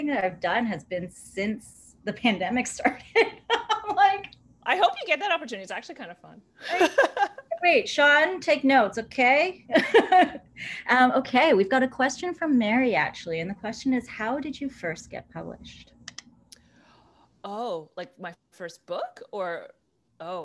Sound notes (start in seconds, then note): 3.0 laughter